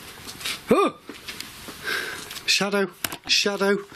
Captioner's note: yells